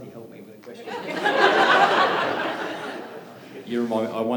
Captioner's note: laughter